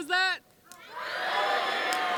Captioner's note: cheering